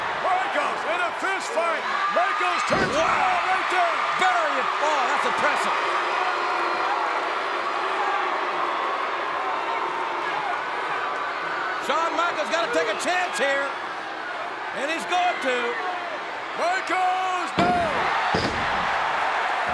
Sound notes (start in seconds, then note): 6.7 applause